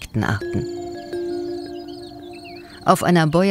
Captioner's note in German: Zirpen, Zwitschern